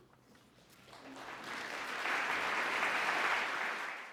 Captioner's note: audience applause